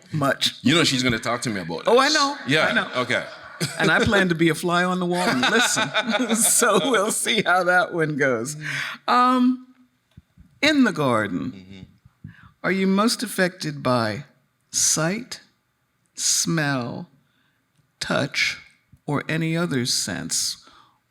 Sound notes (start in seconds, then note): 1.0 chuckles; 5.2 laughing; 5.2 laughs